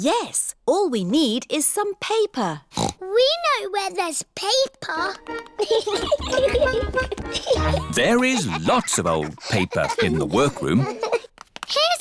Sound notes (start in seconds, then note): 2.7 snorts; 5.6 giggling